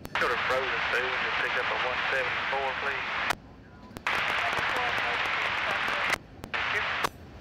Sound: radio chatter

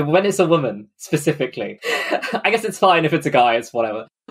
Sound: laughing

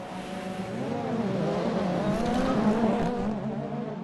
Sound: car engine roars throughout video

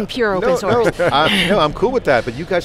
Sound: laughing

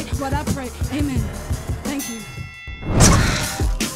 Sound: bell dings

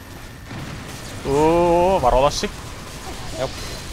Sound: nervous sound

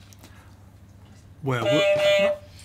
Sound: beep beep

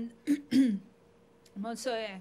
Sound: clearing voice

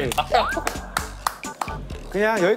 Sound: giggling

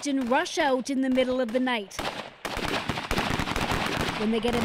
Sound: gunshots

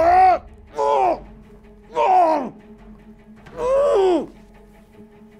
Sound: hurls

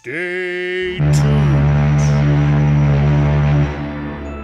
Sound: loud ships horn

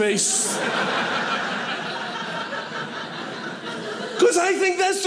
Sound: audience laughing

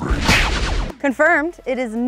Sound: computer game sounds

